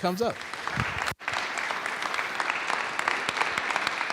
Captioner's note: applause